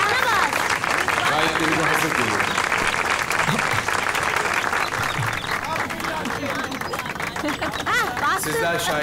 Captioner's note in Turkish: alkış sesi